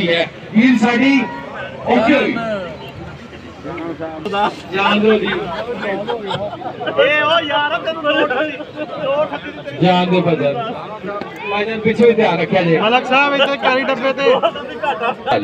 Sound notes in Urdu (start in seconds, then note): 8.4 ہنسی